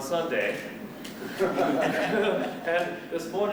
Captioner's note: laughter